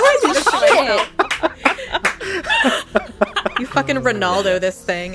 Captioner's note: laughter, exclamations